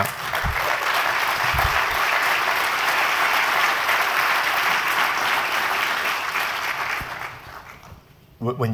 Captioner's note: applause